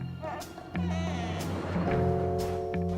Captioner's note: door creaks; quirky suspense music